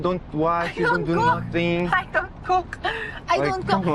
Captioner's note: chuckles